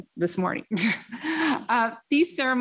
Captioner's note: laughs